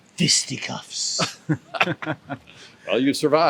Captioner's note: group chuckles